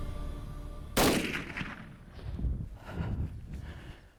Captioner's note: gun shot